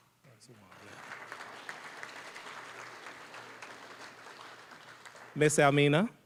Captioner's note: applause